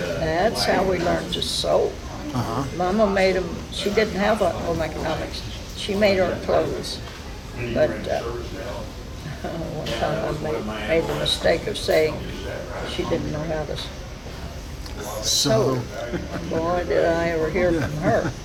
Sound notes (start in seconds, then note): 9.0 chuckles; 15.8 laughs